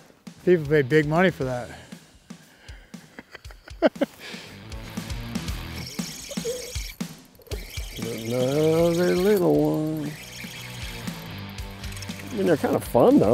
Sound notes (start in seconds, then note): 2.8 laughs; 5.9 fishing line whines